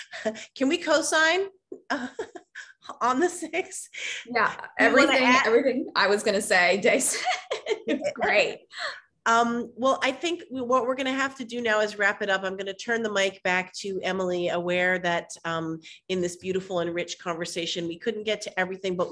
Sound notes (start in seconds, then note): 7.0 all laughing